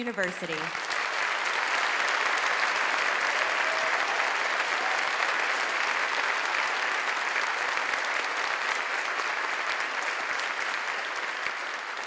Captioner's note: applause